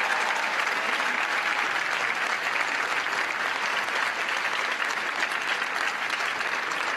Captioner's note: cheers & applause